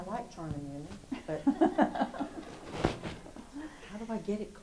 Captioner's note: host and audience laugh